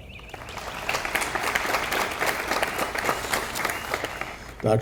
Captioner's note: audience applauding